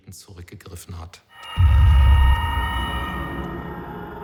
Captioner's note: eerie noises